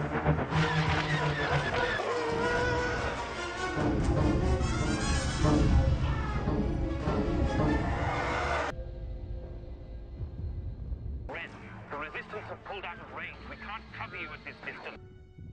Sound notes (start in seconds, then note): 2.0 shield sound effect